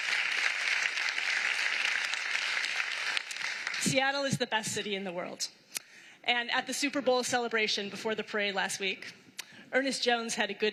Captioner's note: applause